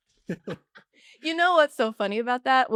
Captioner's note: laugh